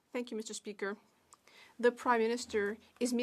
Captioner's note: speaking French